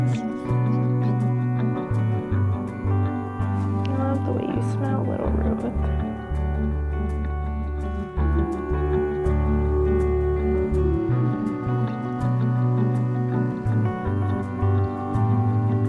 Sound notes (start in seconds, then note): 11.7 tractor purring